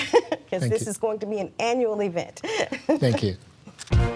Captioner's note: chuckles